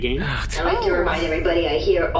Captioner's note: Pleck sighs